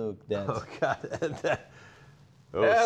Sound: laughing

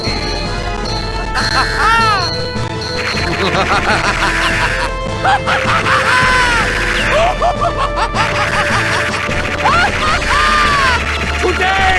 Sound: absolutely evil and chaotic laughs

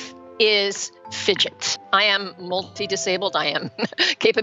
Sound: laughs

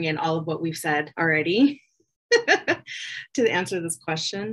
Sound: laughs

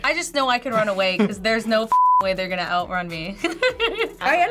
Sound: laughs

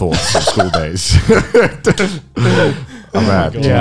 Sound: laughing lightly

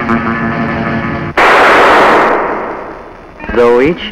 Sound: sound of gunshot

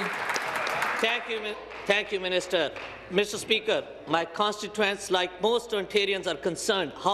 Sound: applause

